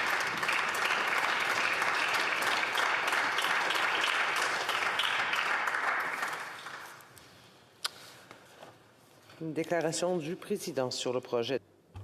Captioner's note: applause